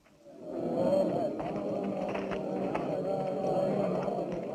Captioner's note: indistinct chattering